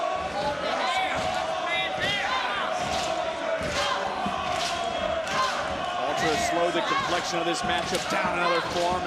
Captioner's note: crowd chanting "walter"